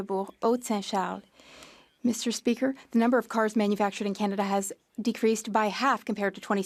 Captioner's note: speaking French